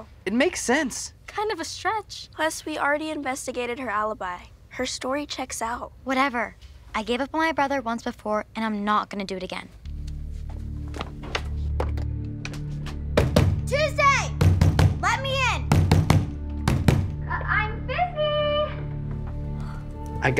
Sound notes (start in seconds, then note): 11.5 knocking on door; 11.5 suspenseful music